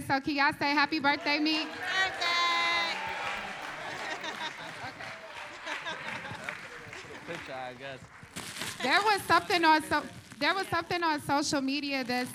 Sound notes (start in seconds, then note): 2.8 applause; 5.2 laughs